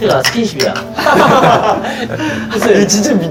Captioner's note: laughing